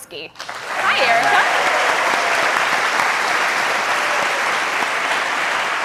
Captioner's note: applause